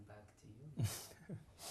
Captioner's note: laughs